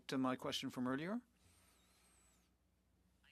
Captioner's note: speaking French